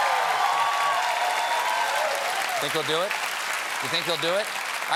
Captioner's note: cheers and applause